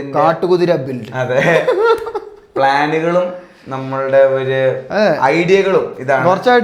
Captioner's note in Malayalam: പൊട്ടിച്ചിരി